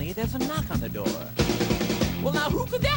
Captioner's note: knocking